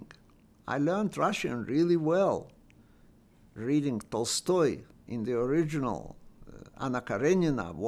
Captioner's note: russian